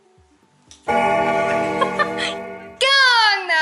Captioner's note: bell ringing